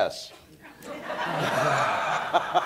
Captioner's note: laughter